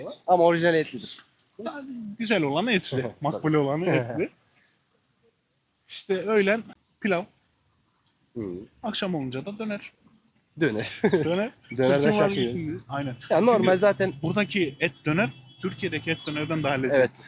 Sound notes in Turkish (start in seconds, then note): 10.8 kahkaha